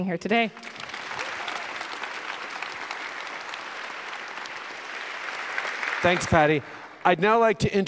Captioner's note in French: Applaudissements